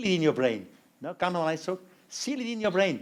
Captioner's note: non-english speech